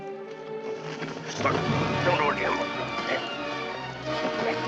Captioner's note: grunting